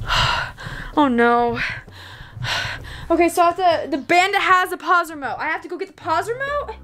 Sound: sighs

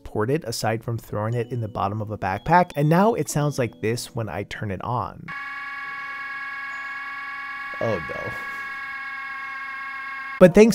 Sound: loud Buzzing Noise

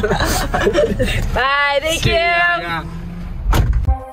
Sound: both laugh; door slams; upbeat music

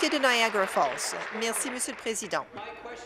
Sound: applause

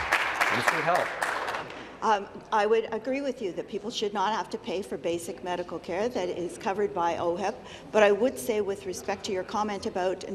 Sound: applause

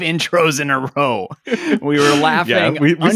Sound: both chuckling

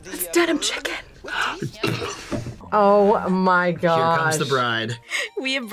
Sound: gasps

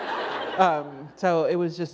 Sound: laughter

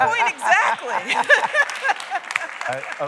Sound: applause

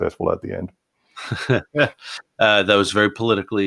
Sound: laughs

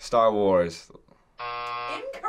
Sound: buzzer

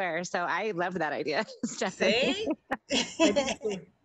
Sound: laughs

